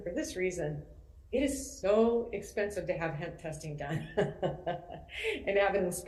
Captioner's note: laughs